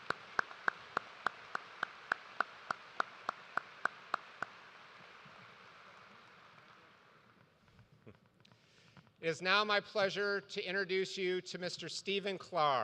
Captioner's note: applause